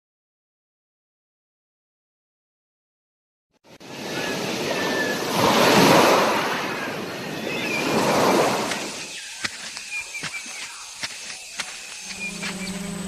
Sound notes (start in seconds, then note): 3.7 waves gushing; 3.9 birds chirping; 10.2 footsteps; 12.9 insects buzzing